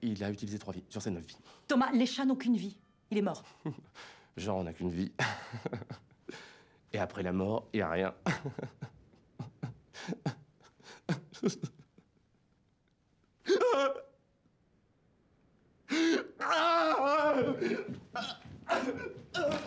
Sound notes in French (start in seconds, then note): 5.2 rire gêné; 10.6 rire attristé; 11.6 sanglots